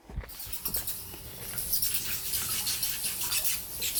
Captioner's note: bats squeaking